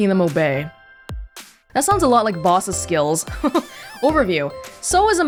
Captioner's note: chuckles